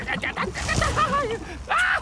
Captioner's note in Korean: 비명